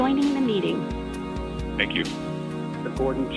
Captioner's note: robotic Voice